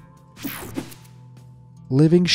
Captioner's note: screen whooshing